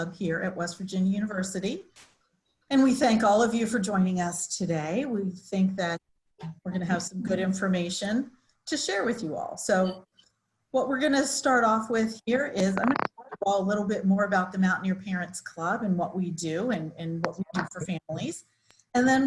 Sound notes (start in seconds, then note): 12.6 microphone feedback